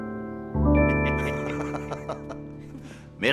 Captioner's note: laughter